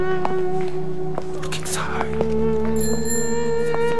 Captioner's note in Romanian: șoaptă: uită-te înlăuntru